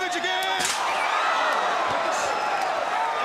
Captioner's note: crowd cheering